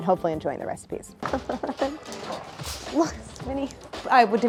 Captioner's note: Claire chuckles